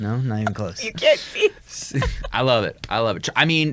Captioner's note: laughs